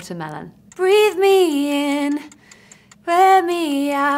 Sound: clock ticking

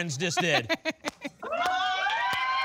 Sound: laughs; applause and cheering

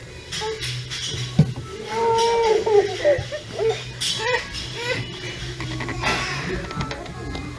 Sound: laughing

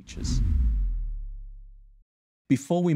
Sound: whooshing

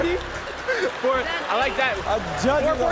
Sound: laughs

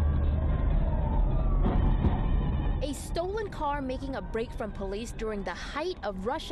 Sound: sirens

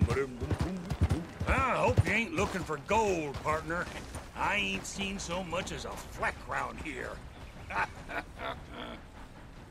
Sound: laughs

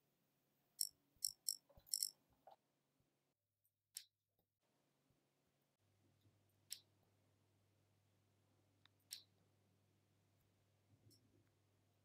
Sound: ipod clicking sound

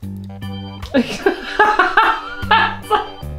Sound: laughter

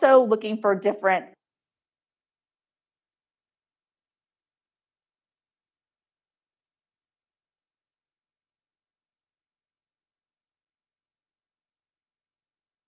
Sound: microphone cuts out

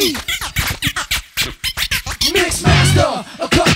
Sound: record scratching

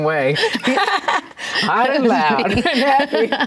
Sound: laughing

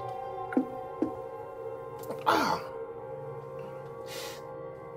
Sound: groaning in pain

